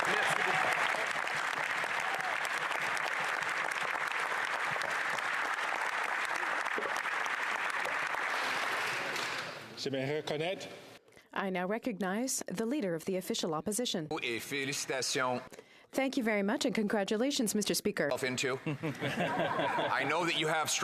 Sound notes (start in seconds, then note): 5.3 applause